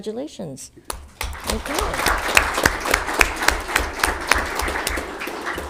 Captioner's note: audience clapping